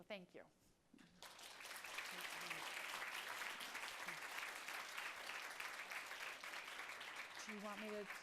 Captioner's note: applause